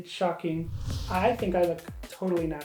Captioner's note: whooshing